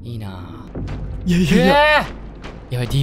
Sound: scared yells

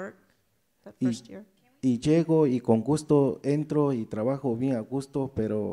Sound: speaks in foreign language

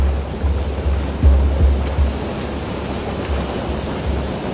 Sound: suspense music; water splashing

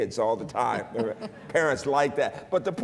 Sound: laughter

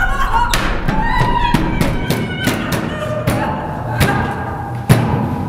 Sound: battering the door

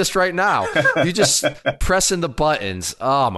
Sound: laughs

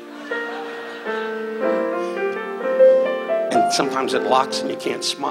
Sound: audience laughs

